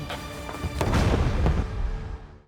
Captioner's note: explosion